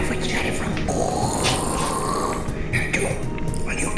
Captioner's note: skeleton snarling